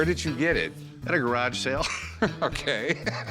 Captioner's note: chuckles